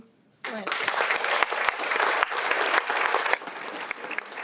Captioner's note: audience applauds